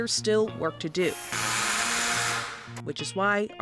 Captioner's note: impact Driver Noise